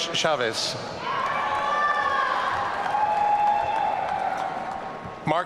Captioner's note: audience cheering